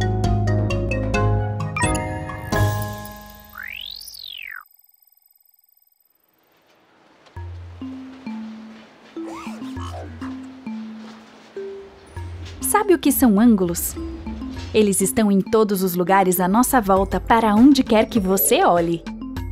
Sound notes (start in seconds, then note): 3.5 electronic whirring; 8.7 light music; 9.2 robot squeaking